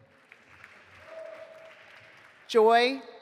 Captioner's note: audience applauding